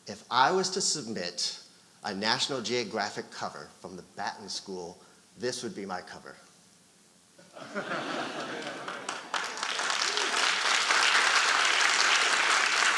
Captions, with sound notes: If I was to submit a "National Geographic" cover from the Batten School, this would be my cover. (audience laughing) (audience applauding)